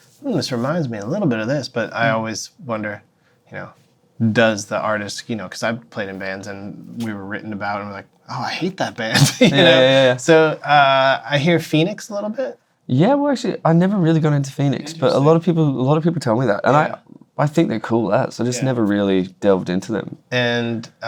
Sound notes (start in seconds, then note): 9.1 laughter